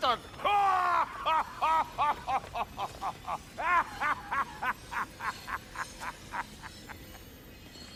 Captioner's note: laughing